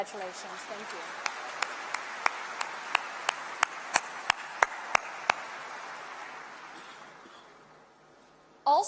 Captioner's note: applause